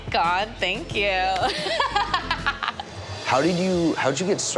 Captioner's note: laughing